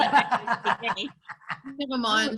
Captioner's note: laughing